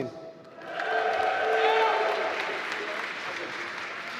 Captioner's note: applause